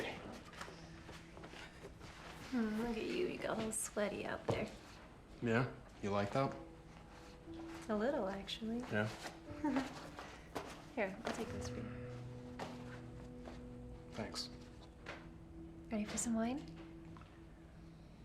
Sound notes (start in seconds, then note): 9.5 Claire giggles; 12.1 gentle music